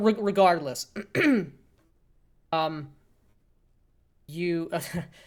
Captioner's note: clears throat